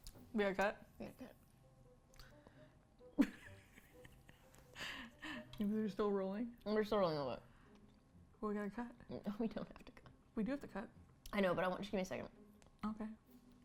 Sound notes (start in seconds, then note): 3.1 laughs; 8.6 chuckles softly